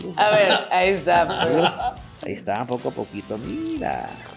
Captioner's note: laugh